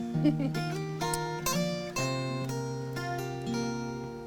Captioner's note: Becky laughs